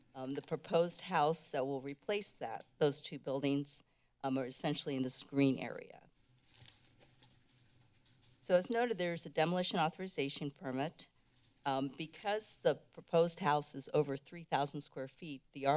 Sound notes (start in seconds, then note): 6.3 rustling sounds